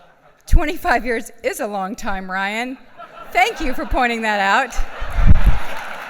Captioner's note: laughs